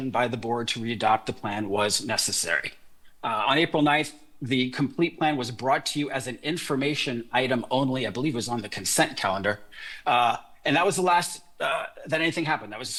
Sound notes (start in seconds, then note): none